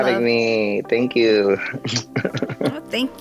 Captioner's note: laughs